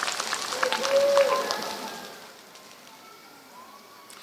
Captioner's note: applause